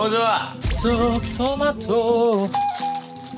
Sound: humming while choosing ramyeon

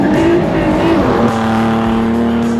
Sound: car engine roaring

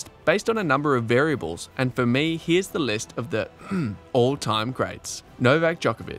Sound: clear your throat

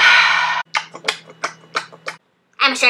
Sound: smacking

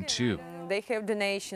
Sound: speaking alternate language

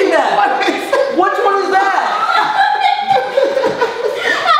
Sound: laughs

